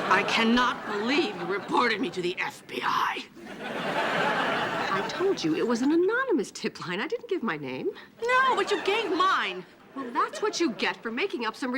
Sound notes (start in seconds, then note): 3.4 audience laughing